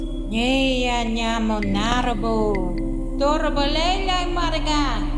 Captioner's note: actor speaking Gamilaroi